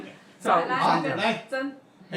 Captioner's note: background chatting